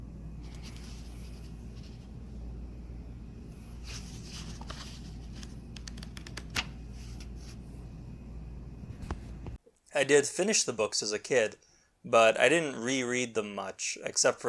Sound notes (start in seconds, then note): 0.8 papers rustling